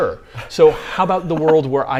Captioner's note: laughs